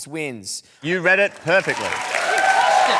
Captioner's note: cheering and applause